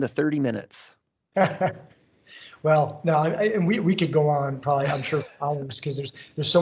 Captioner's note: laughs